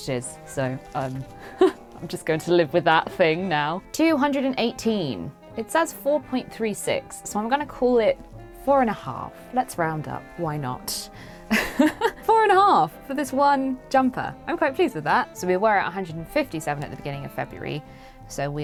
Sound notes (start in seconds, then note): 11.5 laughs